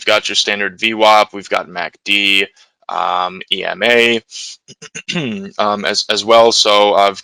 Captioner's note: clears throat